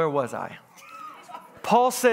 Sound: congregants laughs

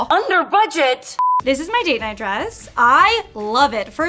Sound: none

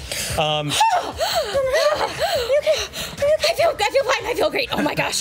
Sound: heavy breathing

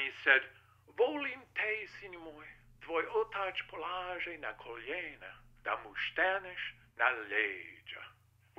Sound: speaking Croatian

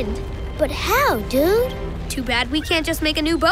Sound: none

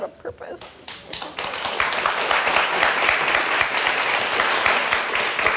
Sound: audience applauds

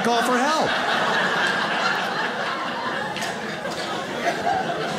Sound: audience laughs

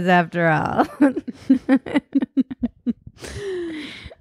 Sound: laughing

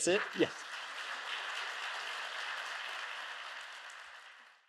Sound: audience applauds

